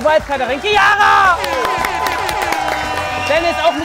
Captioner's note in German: Jubel, Applaus